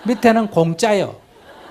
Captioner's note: audience laughter